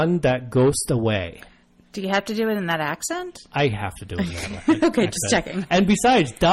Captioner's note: laughs